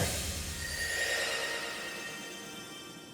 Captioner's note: magical chimes